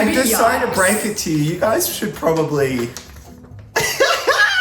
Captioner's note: laughing